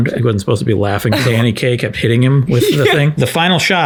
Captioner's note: laughs